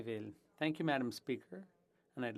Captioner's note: speaking French